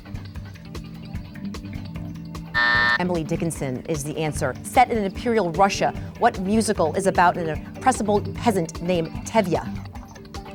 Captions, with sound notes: (buzzer sounding) Emily Dickenson is the answer. Set in imperial Russia, what musical is about an impressible peasant named Tevia?